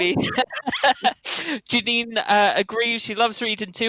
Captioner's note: laughs